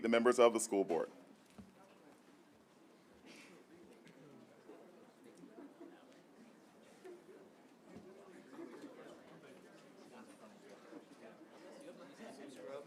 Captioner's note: group chatter